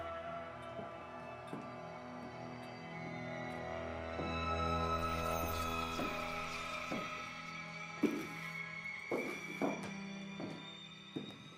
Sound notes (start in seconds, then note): 2.8 foreboding string music; 2.8 shoes tapping